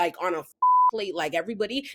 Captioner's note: beep